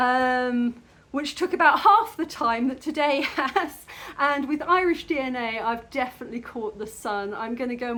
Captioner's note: laughing